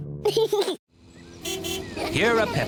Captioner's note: giggles; car horn honks